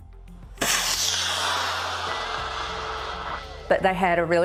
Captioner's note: rocket hissing